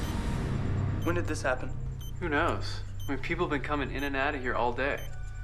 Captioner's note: machine beeping